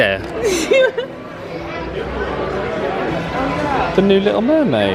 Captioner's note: laughs